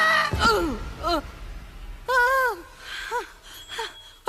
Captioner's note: yelling